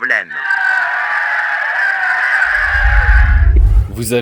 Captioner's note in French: applaudissements